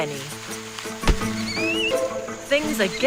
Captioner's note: Beni squeaking in pain